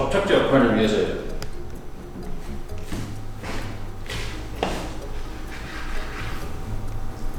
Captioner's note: nice sound of slicing the sandwich, cutting through lots of fresh ingredients